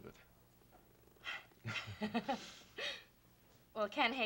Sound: laughter

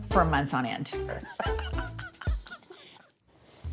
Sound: chuckles

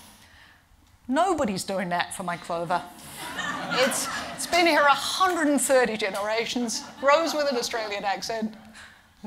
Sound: laughing

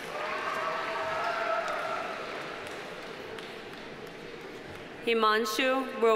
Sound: audience cheering; audience applauding

